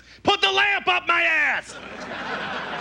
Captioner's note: yelling; audience laughs